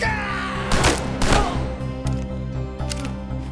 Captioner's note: pounding; man screaming; gunshots; gun clinking